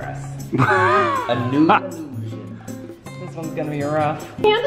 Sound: laughing

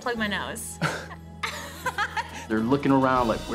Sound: both laughing

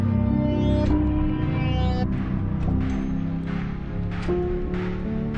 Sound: rewinding sounds

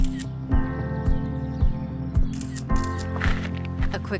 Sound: soft music; camera clicking

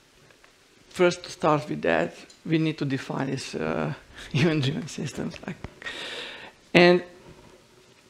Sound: chuckle

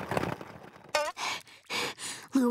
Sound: panting

